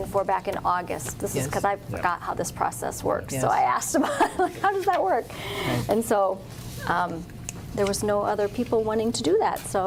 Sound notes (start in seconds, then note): 4.4 laughs